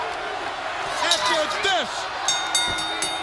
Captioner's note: crowd chatter